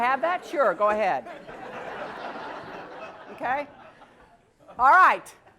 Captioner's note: laugh